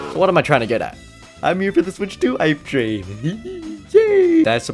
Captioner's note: excited noises